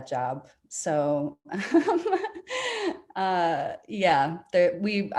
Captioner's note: laughing